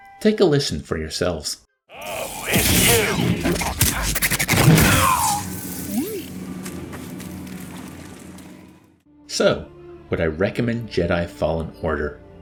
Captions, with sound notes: Take a listen for yourselves. [Wonky sound effects] So, would I recommend Jedi Fallen Order?